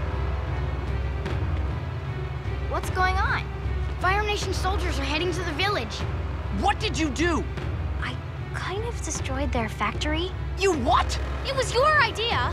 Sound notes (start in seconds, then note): none